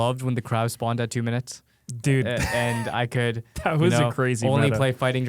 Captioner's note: laughs